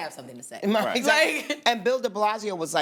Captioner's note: laughs